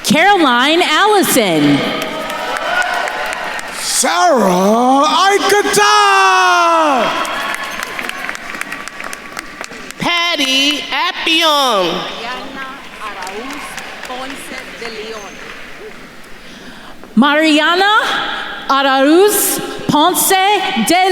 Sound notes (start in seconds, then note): 2.4 attendees cheering and applauding; 7.6 attendees applauding